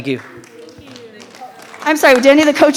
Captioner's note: audience applauds